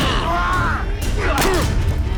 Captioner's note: yells